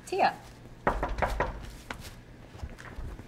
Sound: knocking

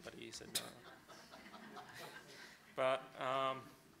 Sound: audience laughing

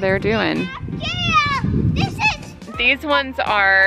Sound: child exclaims

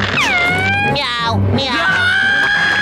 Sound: meowing, screaming; screaming

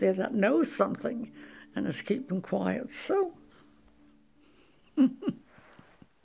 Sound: chuckles; music concludes

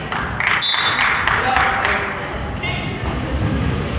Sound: whistle blows

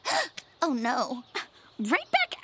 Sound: gasps

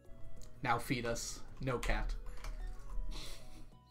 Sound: chuckles

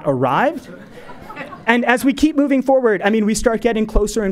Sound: laugh

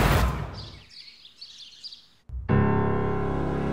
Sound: birds chirping

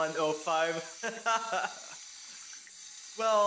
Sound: laughter

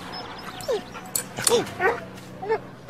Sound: birds chirping; dog whines

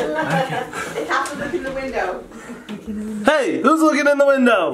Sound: laughing

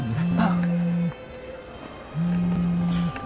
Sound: phone vibrating

